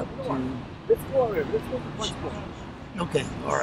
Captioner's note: chatter